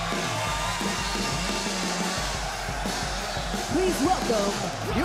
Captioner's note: crowd cheers